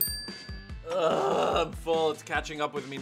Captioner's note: dinging; groaning